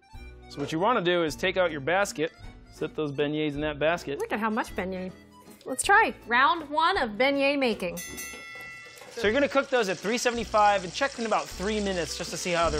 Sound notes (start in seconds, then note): 7.9 bell dinging